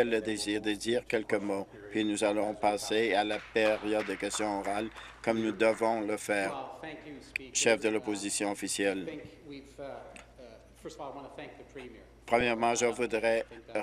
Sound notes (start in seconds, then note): 5.8 applause